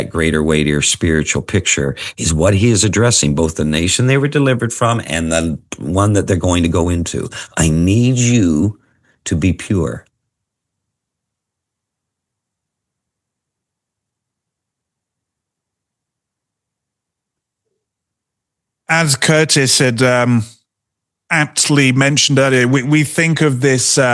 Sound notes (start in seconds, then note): 10.2 silence